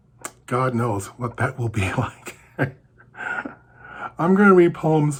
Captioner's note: chuckles